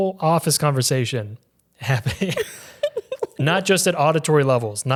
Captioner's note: giggles